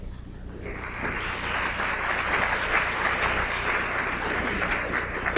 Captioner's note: audience applauds